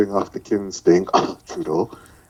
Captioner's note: cough